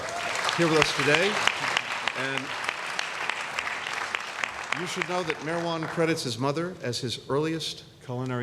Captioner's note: applause